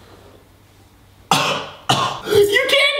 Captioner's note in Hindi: खांसी